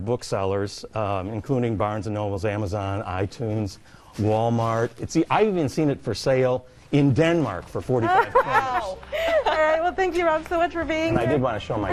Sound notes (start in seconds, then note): 8.1 laughing